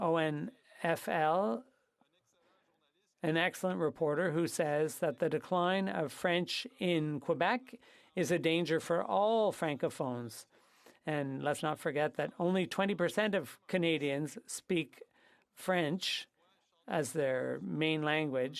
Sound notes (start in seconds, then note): 6.5 speaking French